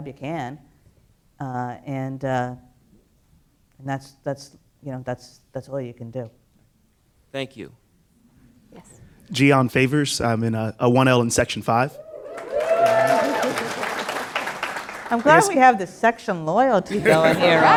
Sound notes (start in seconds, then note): 11.9 "woo-hoo" cheers from audience; 12.9 laughter